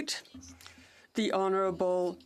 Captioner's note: speaking French